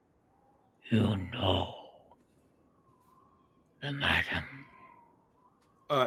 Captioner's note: heavy voice